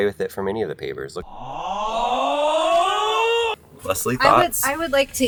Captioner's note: people shouting